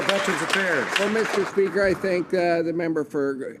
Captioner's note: some Applause